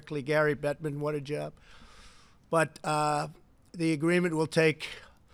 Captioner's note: none